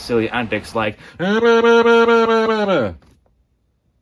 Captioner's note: making an annoying sound